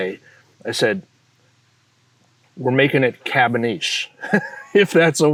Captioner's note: chuckles